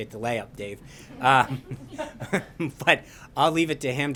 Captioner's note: laughter